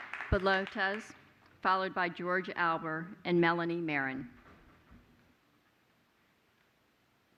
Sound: applause

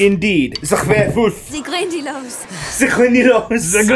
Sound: Hermione speaking foreign language; speaking foreign language

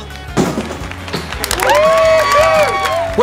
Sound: cheering

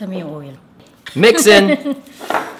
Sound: laughs

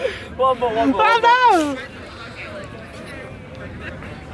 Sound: all laughing

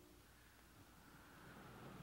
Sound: winds blowing

